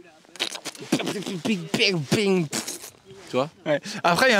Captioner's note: weird french sounds